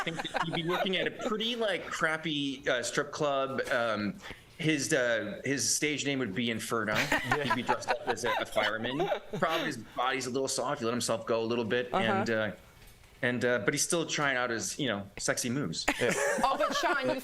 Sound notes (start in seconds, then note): 3.7 laughter; 9.9 laughter